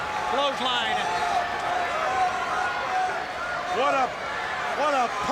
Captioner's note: crowd chattering